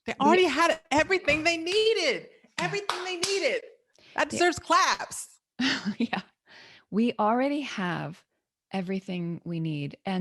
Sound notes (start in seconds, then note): 2.6 claps